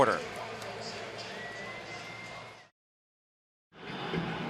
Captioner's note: pa announcement